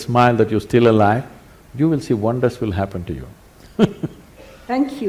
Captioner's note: laughs